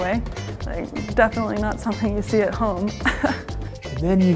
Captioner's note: laughs